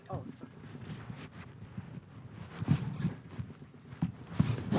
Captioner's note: cloth rubbing